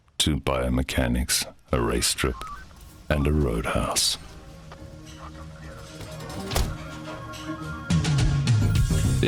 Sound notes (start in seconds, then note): 5.2 police radio chatter; 6.0 car door slams; 7.4 80s music